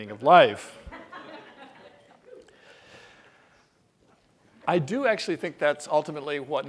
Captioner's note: laugh